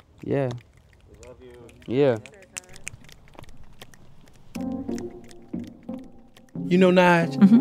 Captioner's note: affirms